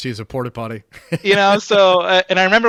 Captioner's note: laughing